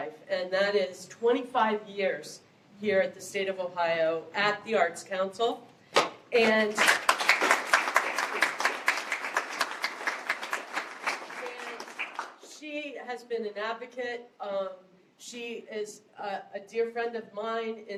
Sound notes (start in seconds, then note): 6.4 applause